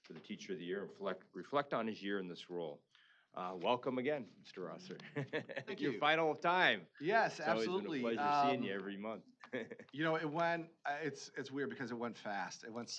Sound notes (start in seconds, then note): 4.9 chuckling